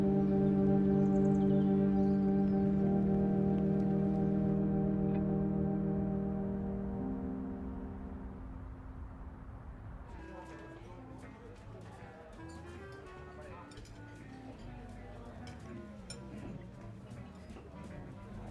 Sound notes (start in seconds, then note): 7.1 distant traffic humming; 9.7 patrons chattering over pleasant easy listening music